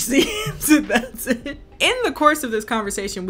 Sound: laughs

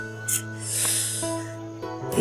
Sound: Nicky sucking teeth

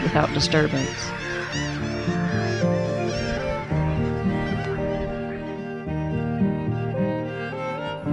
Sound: birds calling

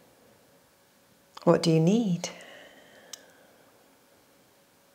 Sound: exhales

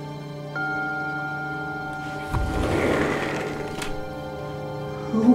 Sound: sliding door opens; zapping sound; birds chirping

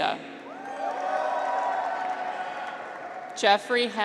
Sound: graduates cheer

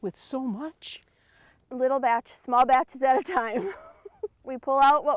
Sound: laughs

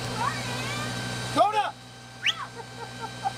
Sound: whistle

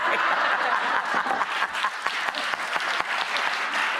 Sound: audience laughter

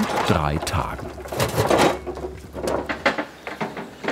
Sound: rattling of the wheelbarrow

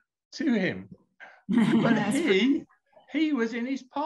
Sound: laughing

